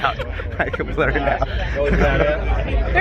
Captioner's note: laughs